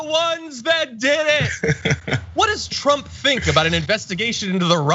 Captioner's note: laugh